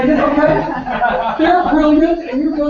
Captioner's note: laugh